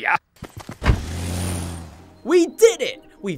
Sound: car zooms away

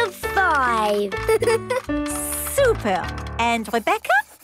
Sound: giggles

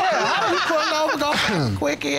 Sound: all laughing

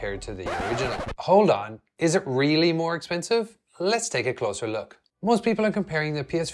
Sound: record scratch

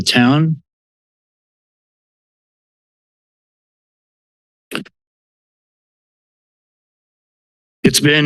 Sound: silence

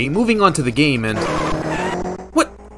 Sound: cue the obnoxious car tire screeches

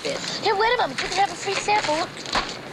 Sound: drops packet

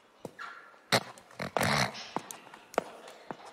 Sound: snorts

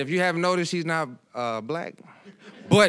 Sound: audience laughing

